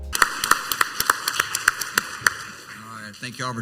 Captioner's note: audience clapping